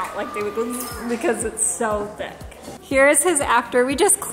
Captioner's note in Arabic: تقلد الطنين